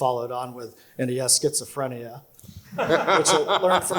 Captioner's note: laugh